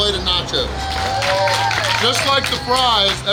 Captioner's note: cheering & Clapping